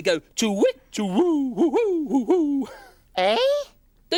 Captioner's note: Groove hooting